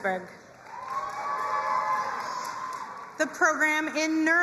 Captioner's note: crowd cheering and applauding